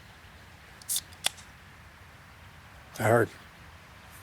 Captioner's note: can hisses